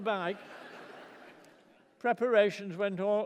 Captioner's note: laughter